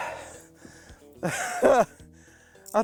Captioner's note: laughs